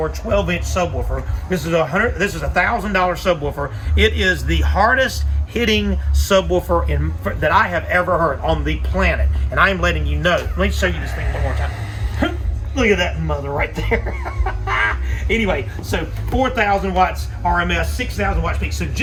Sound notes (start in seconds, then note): 10.4 groaning; 13.7 laughing